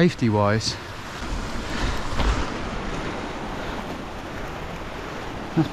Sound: sound of nearby water

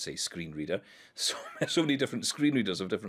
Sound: chuckling

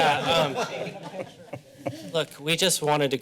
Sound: laughing

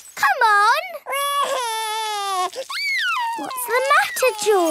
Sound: crying

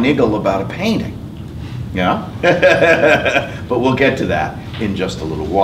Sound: laugh

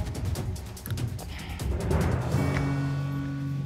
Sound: sighs

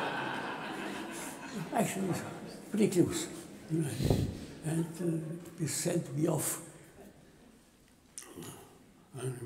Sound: laughter

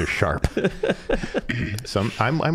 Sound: laughing

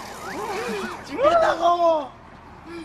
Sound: cheers

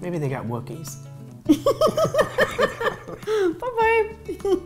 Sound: both laughing

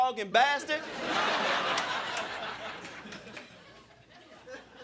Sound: crowd laughing

